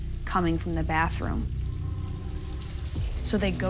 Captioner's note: water running